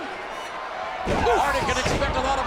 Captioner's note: bodies thud